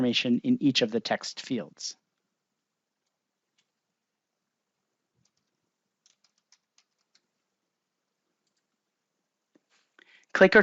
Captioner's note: keyboard typing